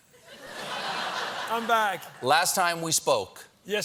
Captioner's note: laughter